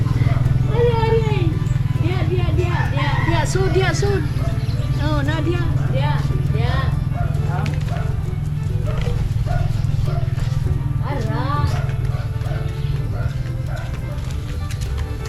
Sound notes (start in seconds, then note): 9.4 dog barks in the background